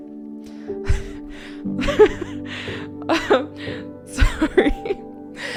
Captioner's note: laughs